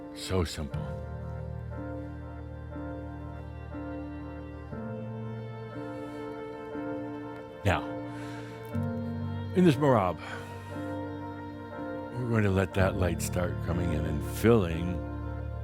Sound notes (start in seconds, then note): none